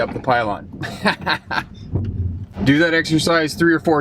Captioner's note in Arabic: يضحك